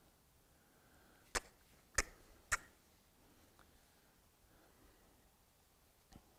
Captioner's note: making clicking noises